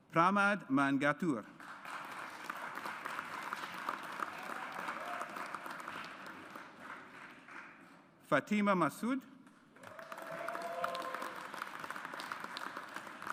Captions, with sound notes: Pramod Mangattoor. (AUDIENCE APPLAUDS) Fatima Masood. (AUDIENCE APPLAUDS)